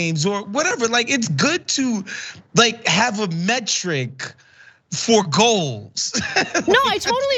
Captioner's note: laugh